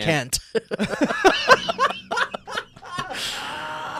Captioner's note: laughing